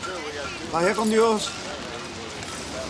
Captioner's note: Crecencio speaks Spanish